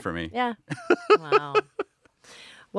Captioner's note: laughing